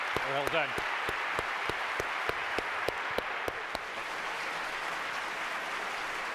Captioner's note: applause